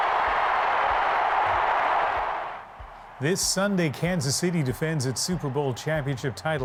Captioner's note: cheers and applause